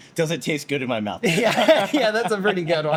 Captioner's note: laughs